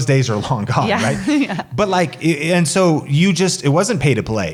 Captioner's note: laughs